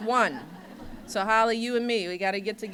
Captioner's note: laughter